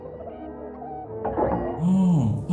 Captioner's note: chattering